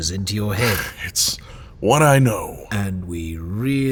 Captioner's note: sarcastic